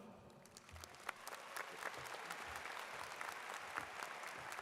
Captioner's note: audience claps